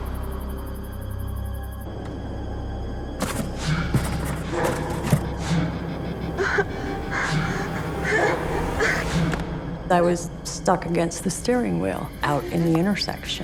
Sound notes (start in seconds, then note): 3.2 rustling; 6.4 whimpering; 12.2 fearful sobbing